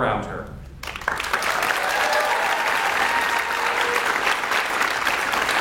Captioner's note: audience cheers and applauds